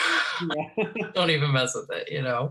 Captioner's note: laughs